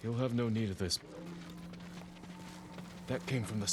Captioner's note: alarm